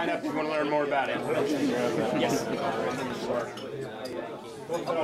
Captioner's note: chattering